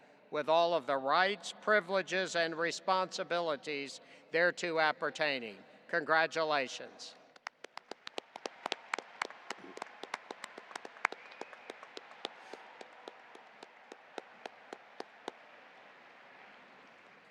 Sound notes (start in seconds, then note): 7.5 audience applauding